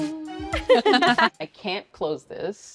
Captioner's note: disco music; group laughs